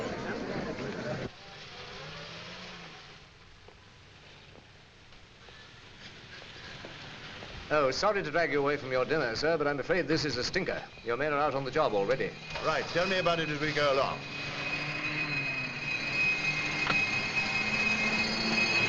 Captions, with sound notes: OH. SORRY TO DRAG YOU AWAY FROM YOUR DINNER, SIR, BUT I'M AFRAID THIS IS A STINKER. YOUR MEN ARE OUT ON THE JOB ALREADY. RIGHT. TELL ME ABOUT IT AS WE GO ALONG. [POLICE SIRENS]